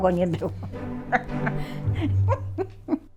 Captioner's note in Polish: śmiech